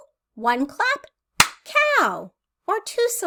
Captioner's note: clap